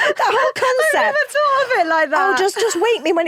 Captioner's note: laughs